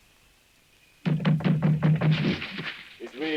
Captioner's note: door thudding